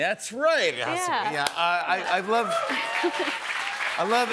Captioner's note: cheers and applause